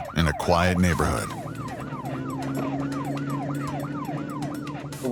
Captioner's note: siren wailing